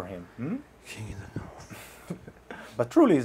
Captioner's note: whispers